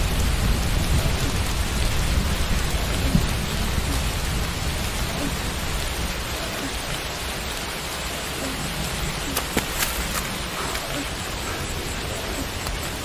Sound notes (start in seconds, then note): 0.0 raining; 9.3 footsteps approaching